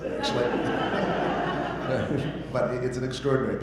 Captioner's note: audience laughter